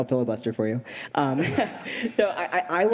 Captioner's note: laughter